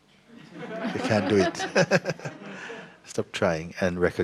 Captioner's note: laughter; fake laughter